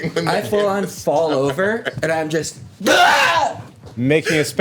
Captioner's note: yells